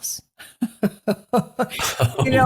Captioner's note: laughs